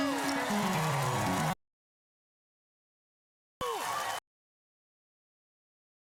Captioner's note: cheers and applause